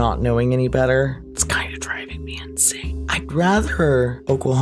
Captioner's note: whispered